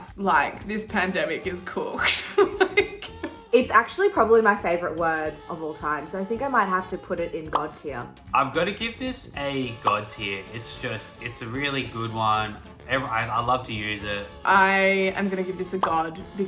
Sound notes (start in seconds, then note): 2.0 laughing